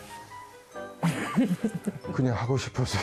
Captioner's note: ㅎㅎㅎㅎㅎㅎㅎ